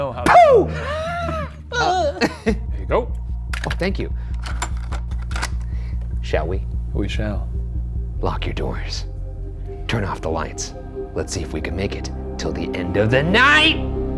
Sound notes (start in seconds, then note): 1.7 whimpers; 1.7 laughs; 4.3 tape clicks